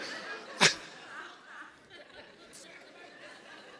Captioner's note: audience laughs